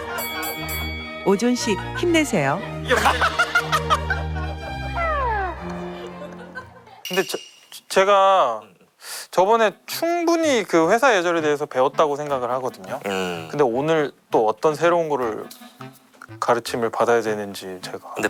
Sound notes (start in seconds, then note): 2.8 one person laughing especially loudly